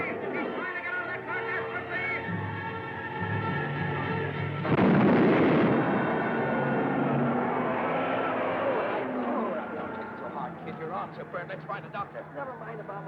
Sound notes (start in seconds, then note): 4.6 explosion booming; 6.9 car revving; 6.9 crowd cheering